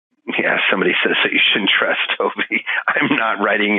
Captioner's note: laughing